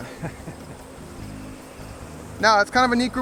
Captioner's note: laughs